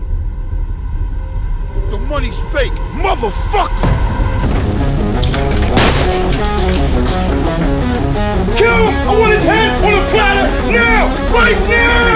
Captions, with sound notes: - The moneys fake! Motherfucker! (Intense music) (guns firing) - Kill him! I want his head on a plater. Now, right now.